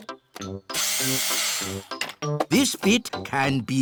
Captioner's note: whirring